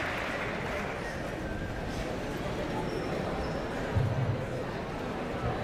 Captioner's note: audience chattering